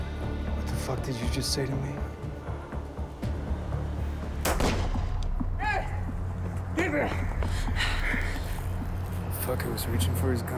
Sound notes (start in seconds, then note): 4.4 gun pops